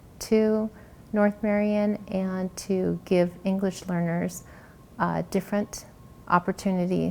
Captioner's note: none